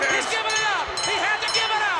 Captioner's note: bell rings